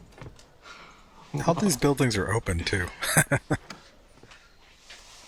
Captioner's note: laughing